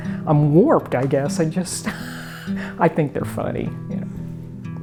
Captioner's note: laughs